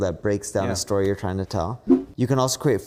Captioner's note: graphics whooshing